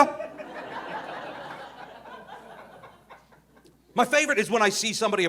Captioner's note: audience laughing